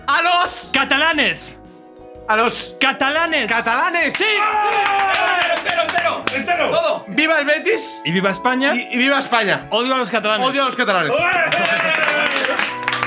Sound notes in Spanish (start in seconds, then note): 4.7 grita; 11.2 gritan y aplauden